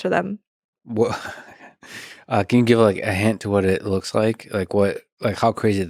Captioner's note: laughs